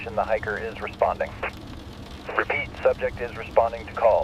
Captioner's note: SOUND: Radio static. Distant voice cutting in and out